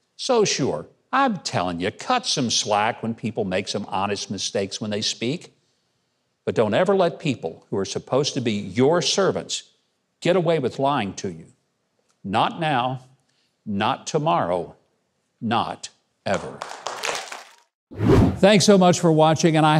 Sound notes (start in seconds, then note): 16.3 audience clapping; 17.9 air whooshing